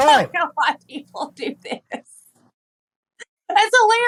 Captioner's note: laugh